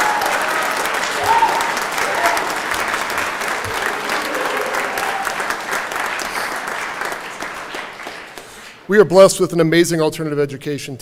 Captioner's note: cheering and Applause